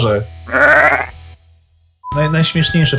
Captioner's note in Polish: meczenie owcy